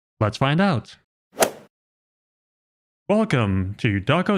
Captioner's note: golf ball hit sound effect